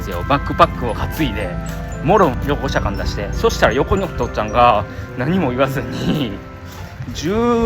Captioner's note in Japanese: 咳払い